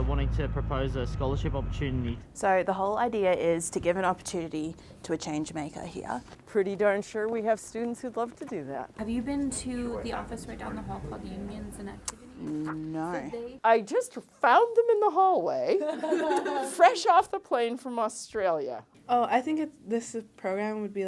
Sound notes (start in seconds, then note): 15.8 women laughing